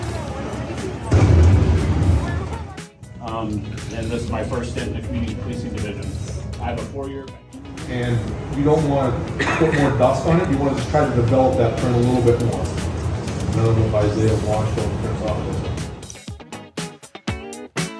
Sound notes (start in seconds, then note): 1.1 metal clanging; 14.3 upbeat music